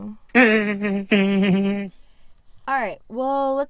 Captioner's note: laugh track